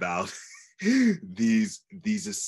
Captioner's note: laughs